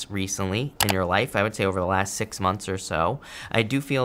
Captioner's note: mouse clicking